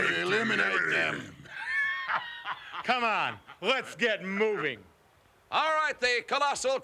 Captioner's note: laugh